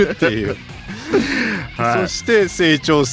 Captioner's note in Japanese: 笑い